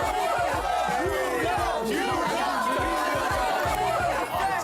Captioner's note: Everyone shouting "New York" together all of a sudden